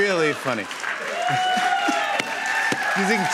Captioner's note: laughter and applause